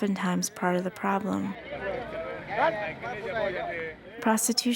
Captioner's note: people talking in background